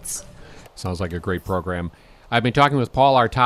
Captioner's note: voiceover